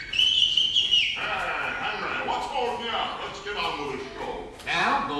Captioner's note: whistles